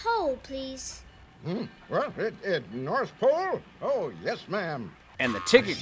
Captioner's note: stammers